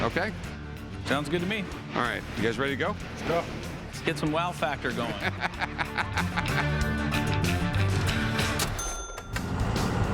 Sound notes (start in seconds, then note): 5.1 laughter